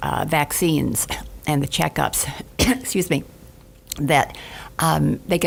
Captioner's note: coughs; coughs